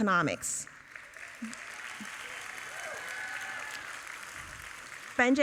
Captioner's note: audience applauding